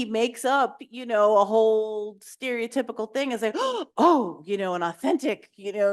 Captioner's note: gasps